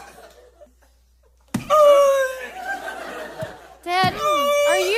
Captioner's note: struggles